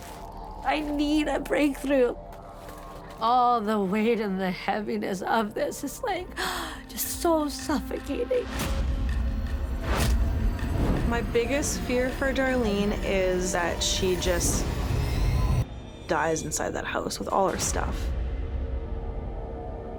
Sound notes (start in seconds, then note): 5.6 gasps; 7.8 frantic music playing